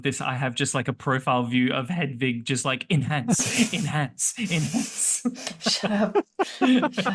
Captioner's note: laughter